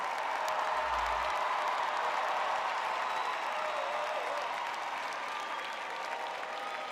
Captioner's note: crowd cheering